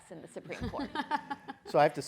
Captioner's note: laughs